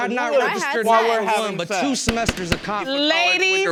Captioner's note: gavel pounding